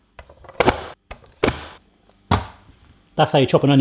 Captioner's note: banging